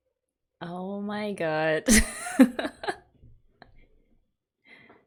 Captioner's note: laughs